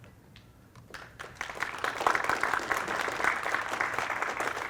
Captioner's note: applause